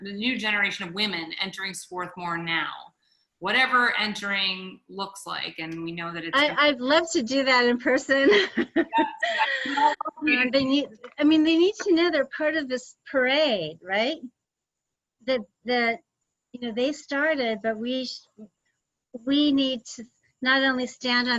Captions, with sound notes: the new generation of women entering Swarthmore now. Whatever entering looks like and we know that it's gonna-- - I'd love to do that in person. (laughs) I mean, they need to know they're part of this parade, right? They started, but we need to not only stand